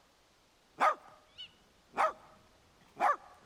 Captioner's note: dog barking